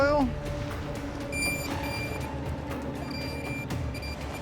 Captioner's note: metal detector beeping